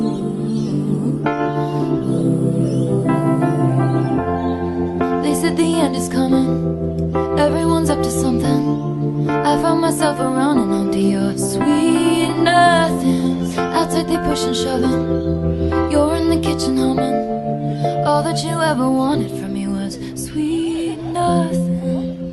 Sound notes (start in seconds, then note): 15.8 ~you're in the kitchen humming~